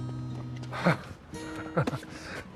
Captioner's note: CHUCKLlNG